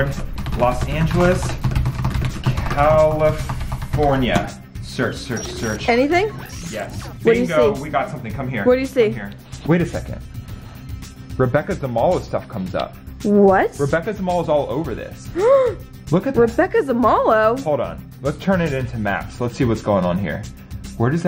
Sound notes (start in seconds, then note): 15.3 gasps